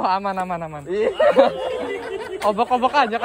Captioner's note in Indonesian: tertawa